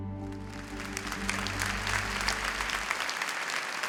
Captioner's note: applause